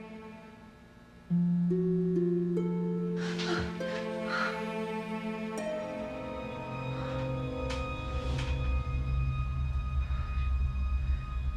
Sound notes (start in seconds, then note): 0.1 gentle music; 3.2 Maggie moaning; 6.3 dramatic music